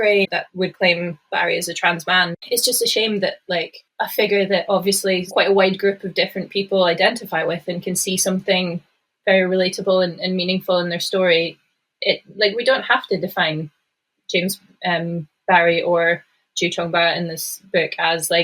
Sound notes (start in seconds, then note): none